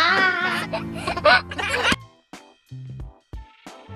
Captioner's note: giggling; cheerful music